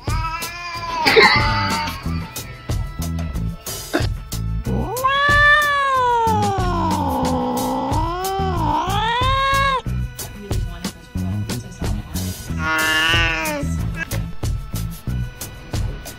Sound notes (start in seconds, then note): 0.0 fluffy Ginger and white Cat Moaning; 4.6 grey and white Kitten Growling and Mewing; 12.5 mewing